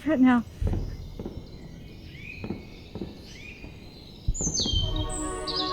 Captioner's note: early morning birds chirp